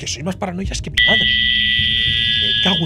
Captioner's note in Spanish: Pitido